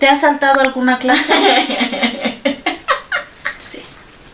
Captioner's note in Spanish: risas